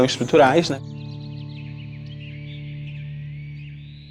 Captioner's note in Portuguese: pássaros cantando